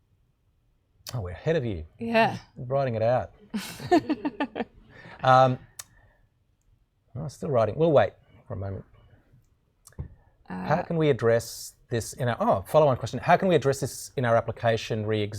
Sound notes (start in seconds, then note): 3.5 laughing